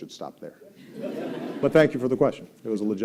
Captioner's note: laughter